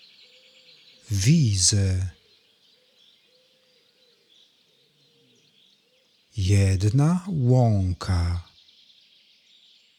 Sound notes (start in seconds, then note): 2.4 german